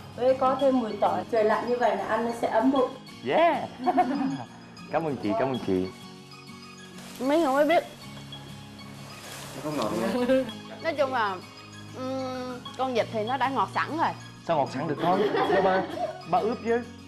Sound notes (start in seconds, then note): 10.0 laughing; 15.0 laughing